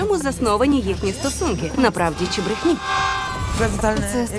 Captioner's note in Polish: krzyczą